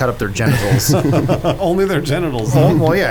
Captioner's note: laughs